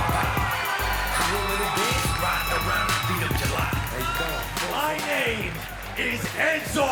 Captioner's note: cheers & applause